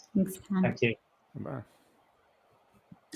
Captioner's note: speaking faintly